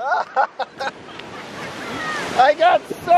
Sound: laughs

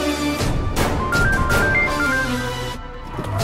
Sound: phone Ringing; vehicle Screeching

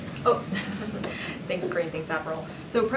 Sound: laughter

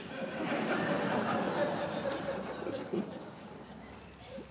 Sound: audience laughing

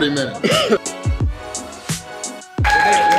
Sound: coughs; cheers

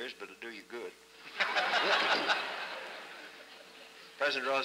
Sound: laughter

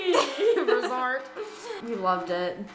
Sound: laughs

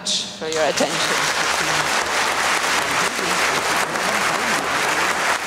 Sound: applause

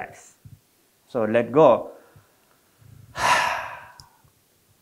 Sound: exhales

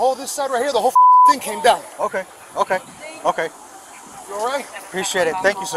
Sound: beeping

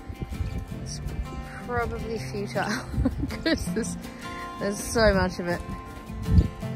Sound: laughs

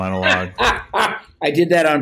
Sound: laughs

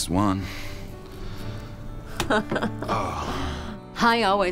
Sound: laughs

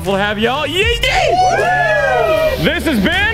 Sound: everyone cheers

